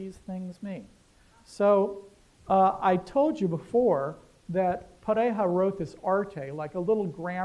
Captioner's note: non-english